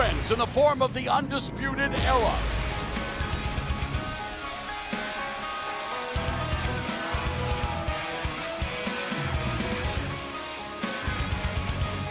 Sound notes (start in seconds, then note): 5.6 crowd cheering